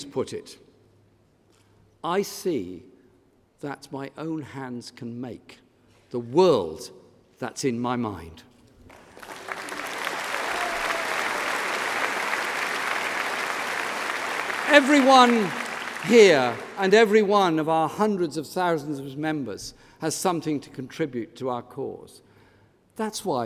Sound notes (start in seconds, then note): 12.1 applause